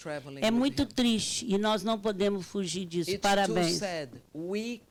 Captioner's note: speaking Portuguese